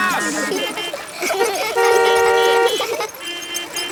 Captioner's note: laughter; beeping